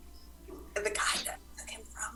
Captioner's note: whispers